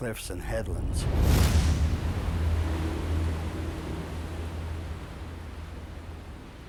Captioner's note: wave crashes loudly